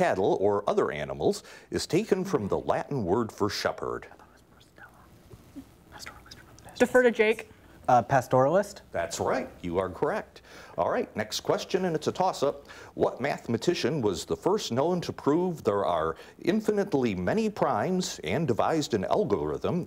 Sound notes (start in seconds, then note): none